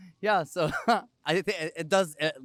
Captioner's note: laugh